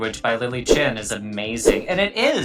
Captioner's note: graphic fwipping